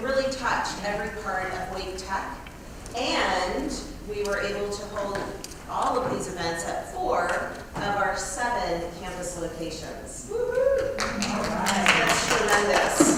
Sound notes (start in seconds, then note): 10.9 applause